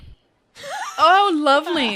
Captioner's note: laughter